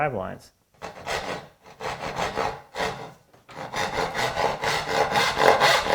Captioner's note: saw on wood rhythmically rasping